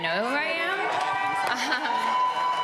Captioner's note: cheering